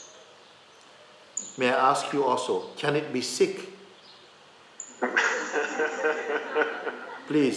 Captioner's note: laughter